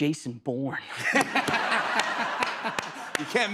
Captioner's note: laughter